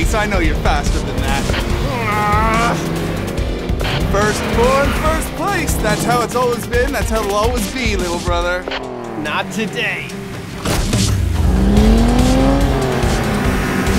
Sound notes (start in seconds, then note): 1.5 groans; 3.8 radio static; 11.6 engine revving; 13.7 exciting music